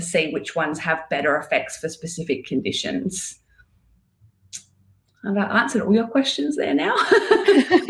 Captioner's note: laughing